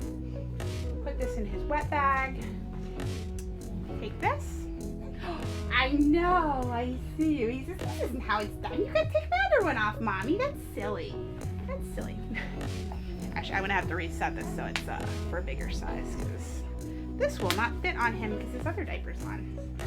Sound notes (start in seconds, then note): 12.2 chuckles